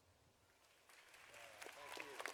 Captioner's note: audience applauding